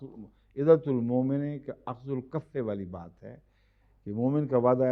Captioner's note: Arabic